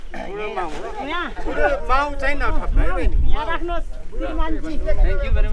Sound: indistinct conversation

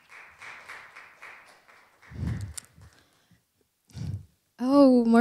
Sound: applause

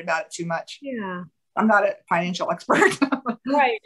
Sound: laughter

